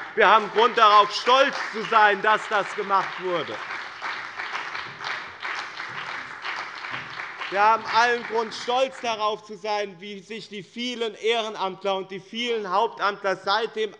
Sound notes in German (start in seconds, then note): 3.7 Lebhafter Beifall bei dem BÜNDNIS 90/DIE GRÜNEN und der CDU